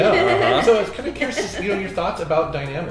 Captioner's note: Roberta laughing